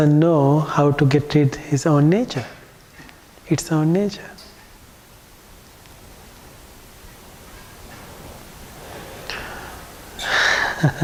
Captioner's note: laughing